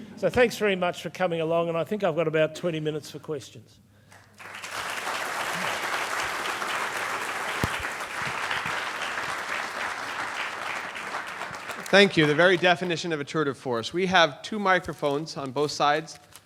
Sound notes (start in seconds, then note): 6.9 applause